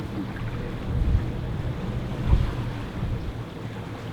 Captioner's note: ocean waves